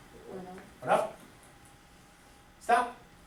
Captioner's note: voiceover